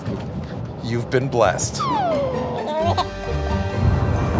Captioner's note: baby giggles